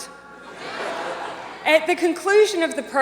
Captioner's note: audience laughs